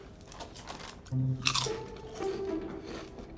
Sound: someone eating chips loudly

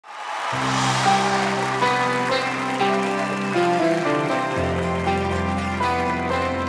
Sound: crowd cheering; light upbeat music

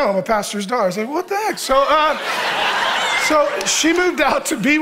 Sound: congregation laughing

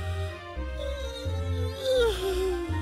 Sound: squeaking

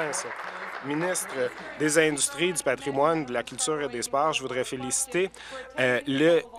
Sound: applause

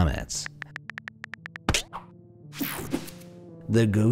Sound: keys clicking

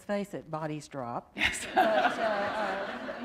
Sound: laughter

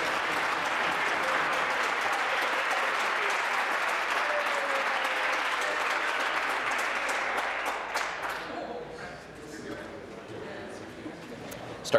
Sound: applause

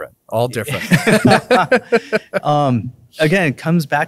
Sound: both laughing

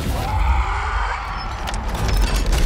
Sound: screams

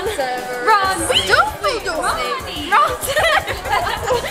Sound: laughing

